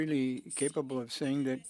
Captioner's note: speaking French